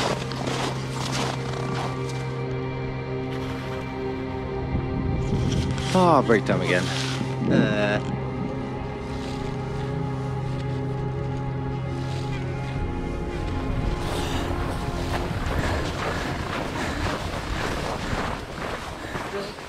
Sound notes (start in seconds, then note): 8.2 ice sloshing; 15.9 footsteps